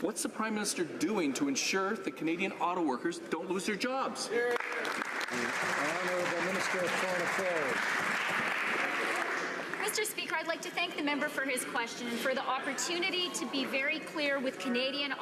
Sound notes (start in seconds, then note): 8.4 some Applause